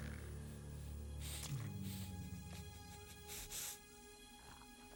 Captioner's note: sniffing